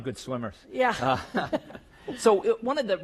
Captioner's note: laugh